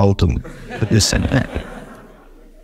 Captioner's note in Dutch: lach in de zaal